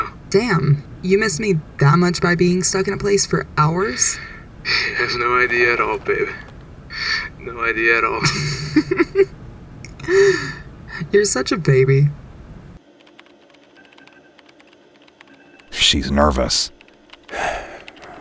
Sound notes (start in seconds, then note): 8.2 Cinder snickers; 17.3 Wildcard exhales